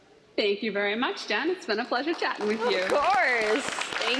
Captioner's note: applause